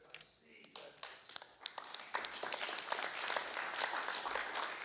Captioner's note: applauding